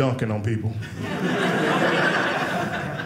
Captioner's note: audience laughing